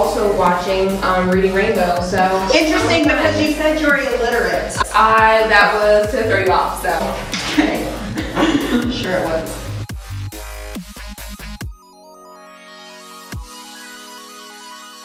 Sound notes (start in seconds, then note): 8.3 laughs